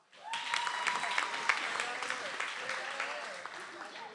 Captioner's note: audience applauds